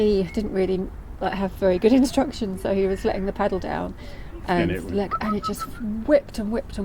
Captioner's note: whistles